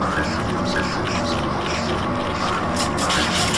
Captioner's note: none